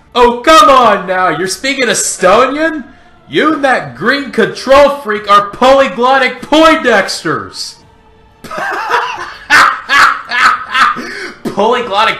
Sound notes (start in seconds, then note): 8.4 laughs